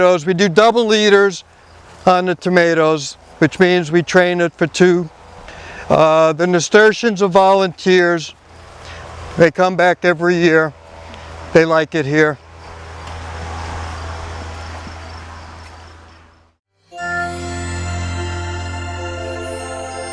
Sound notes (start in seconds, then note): 12.4 engine revving; 13.1 crickets chirping; 16.8 gentle music